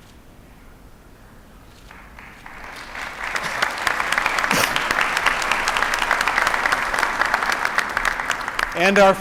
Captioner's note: applause